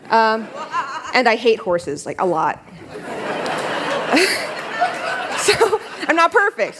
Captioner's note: laughter